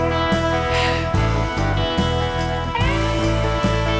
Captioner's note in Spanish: Ríe